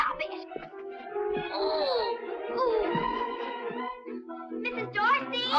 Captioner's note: suspenseful music; boys groaning